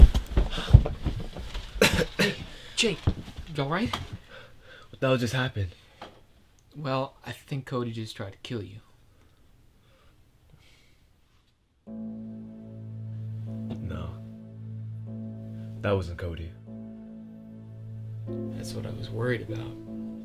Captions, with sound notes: (JAKE coughs) Jake... You all right? What the hell just happened? Well, I think Cody just tried to kill you. No... That wasn't Cody. That's what I was worried about.